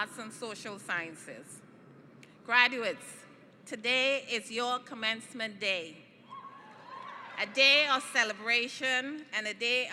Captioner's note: cheering